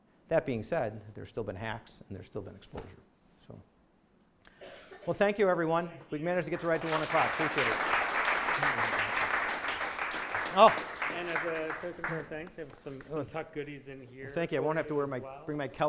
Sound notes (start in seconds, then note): 9.1 audience applauding